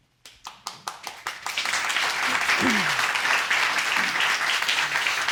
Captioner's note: applause